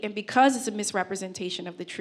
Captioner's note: none